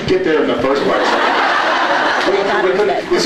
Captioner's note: laughs